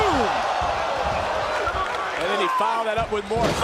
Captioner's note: crowd cheers